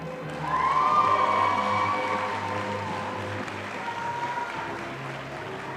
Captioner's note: audience applauding